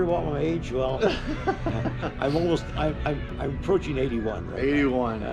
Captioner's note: laughter